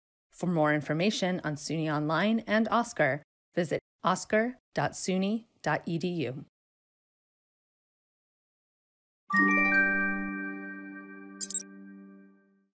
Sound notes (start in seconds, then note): 9.3 gentle electronic tones